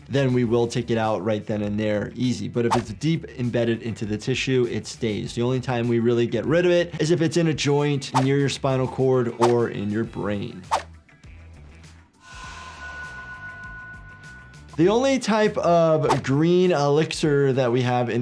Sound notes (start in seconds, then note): 12.2 elixir chimes